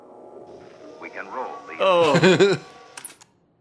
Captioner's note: TV playing in the background